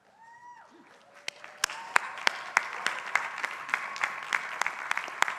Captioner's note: crowd applauding